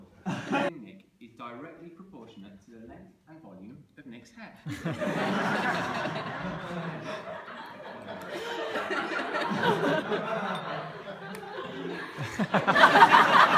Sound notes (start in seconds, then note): 4.6 laughter